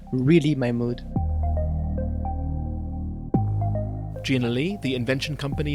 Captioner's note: voiceover